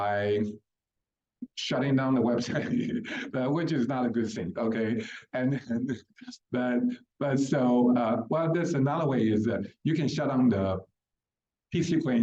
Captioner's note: laughs